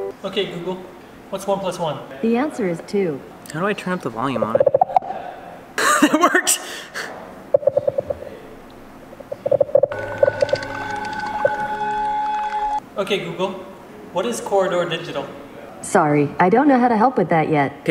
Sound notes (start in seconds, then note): 4.4 makes increasingly louder popping sounds; 5.8 laughs; 7.5 makes increasingly quieter popping sounds